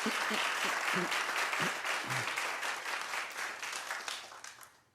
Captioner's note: audience laughing